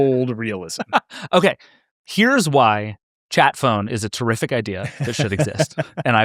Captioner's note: laughs